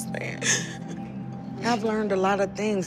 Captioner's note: sobs